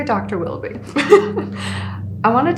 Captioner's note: all laughing